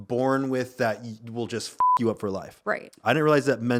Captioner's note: beep